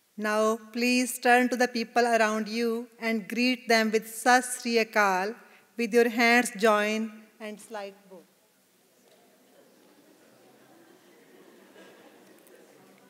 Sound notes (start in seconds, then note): 0.0 man speaking non-English greeting; 4.5 non-English greeting